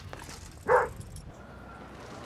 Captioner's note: barks